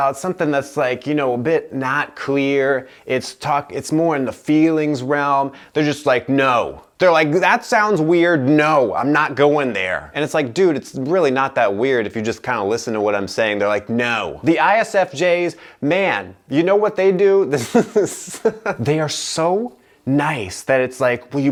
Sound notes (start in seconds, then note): 17.6 laughter